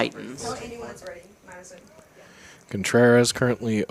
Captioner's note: indistinct chatter